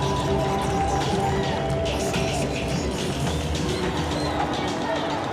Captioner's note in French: acclamation de la foule